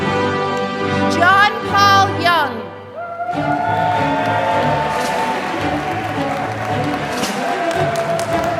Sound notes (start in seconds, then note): 3.2 applause